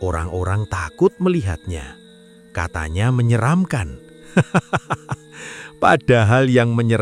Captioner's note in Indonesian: tertawa